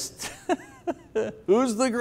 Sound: laughs

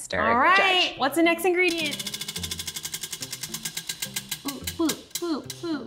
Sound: wheel clicking

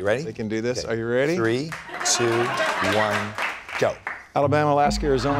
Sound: applause / Laughter

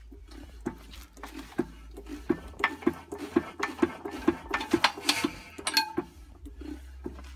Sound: clunka clunka clunka clunka ting whoosh woosh

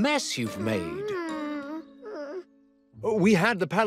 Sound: whimpers

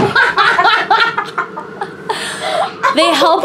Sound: laughs

